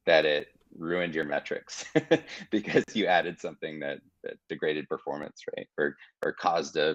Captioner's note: chuckling